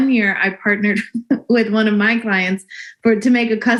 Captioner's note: chuckles